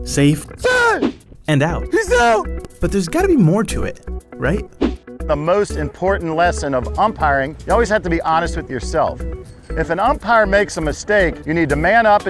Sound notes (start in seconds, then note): 1.8 voiceover